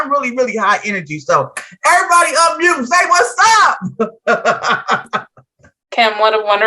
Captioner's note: chuckles